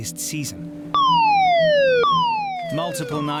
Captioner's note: siren blaring